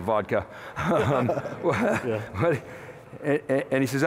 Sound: laughter

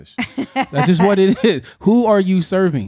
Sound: laughing

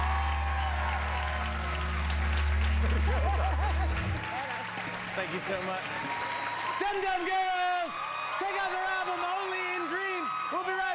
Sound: cheers and applause

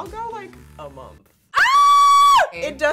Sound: screaming

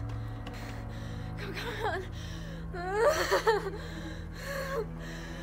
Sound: Stephanie panting; whimpers

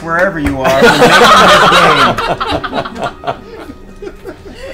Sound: all laugh

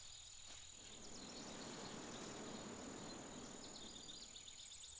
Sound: wind, leaves rustling

